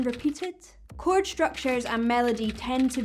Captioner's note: keyboard typing